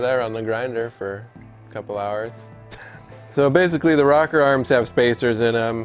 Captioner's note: chuckle